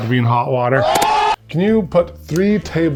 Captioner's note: audience gasping